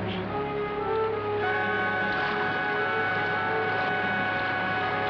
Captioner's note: water burbling